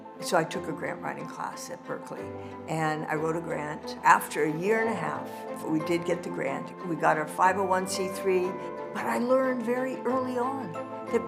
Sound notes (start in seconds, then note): none